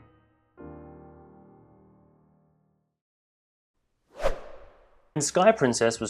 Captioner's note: whoosh